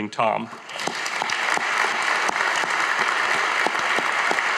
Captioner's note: audience applauding